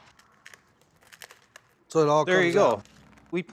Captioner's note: shelling